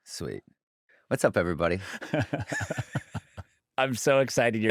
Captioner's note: laughter